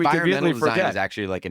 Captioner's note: laughs